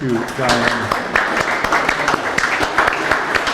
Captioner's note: claps